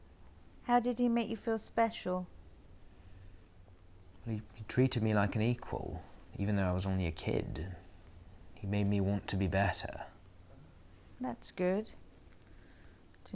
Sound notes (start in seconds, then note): none